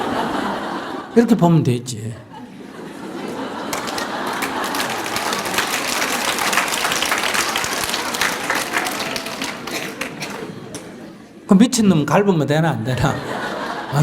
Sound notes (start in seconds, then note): 0.0 audience Laughter; 2.4 audience Laughter/Applause; 12.8 audience Laughter